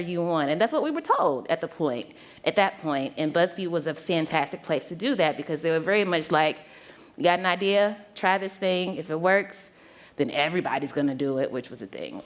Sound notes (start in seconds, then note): none